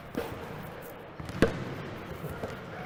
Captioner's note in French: basketball rebondissant sur le sol